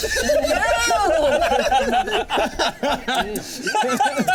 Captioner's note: all laughing